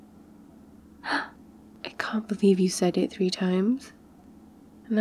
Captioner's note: gasps